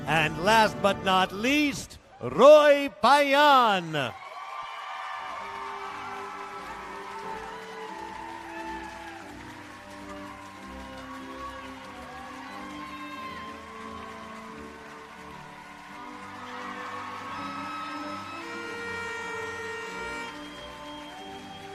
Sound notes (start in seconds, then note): 4.7 applause and Cheering